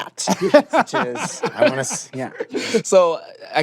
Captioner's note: laughter